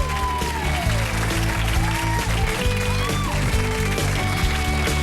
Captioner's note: audience applauding